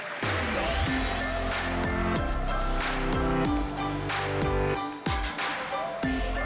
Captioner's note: applause